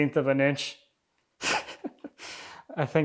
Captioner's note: chuckling